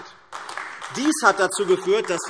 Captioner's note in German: Beifall AfD